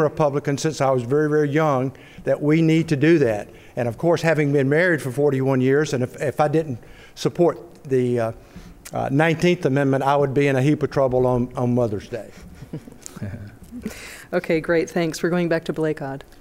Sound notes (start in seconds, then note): 12.5 light laughter